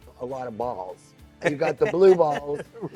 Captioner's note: laughing